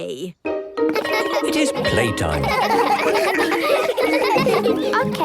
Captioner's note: laughter